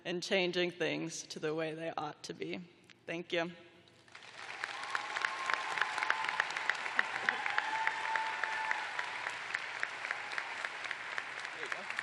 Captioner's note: cheers and applause